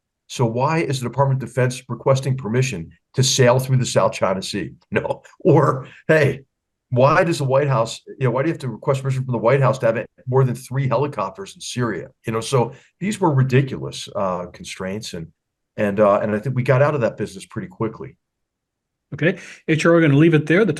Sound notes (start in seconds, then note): 5.0 laugh